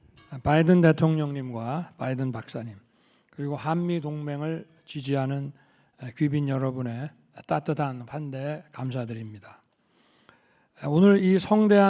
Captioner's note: speaking Korean